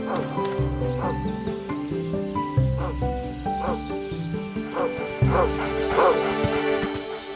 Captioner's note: bright music continues; barking